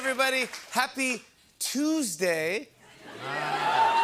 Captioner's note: laughter